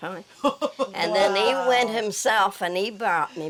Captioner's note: laughter